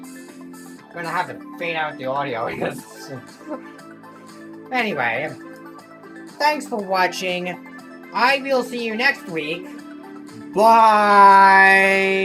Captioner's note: laughter